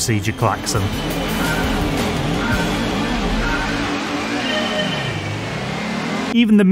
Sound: klaxon

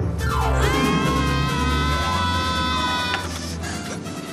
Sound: both screaming

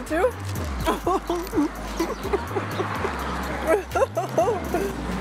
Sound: laughs

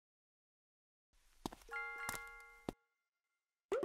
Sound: sound of footsteps

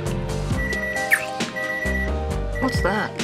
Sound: alarm beeping

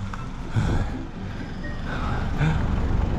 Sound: เสียงรถยนต์

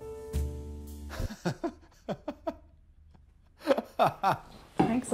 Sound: laughs

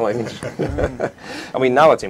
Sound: laughing

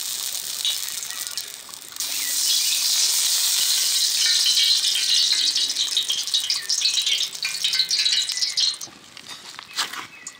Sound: oil sizzles

